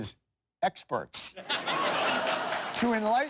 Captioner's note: laughter